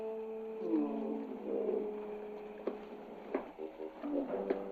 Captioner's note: Shadwell grunting